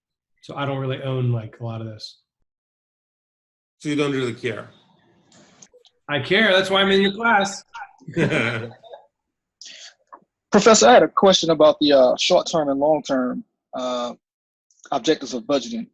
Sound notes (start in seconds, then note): 7.6 laughs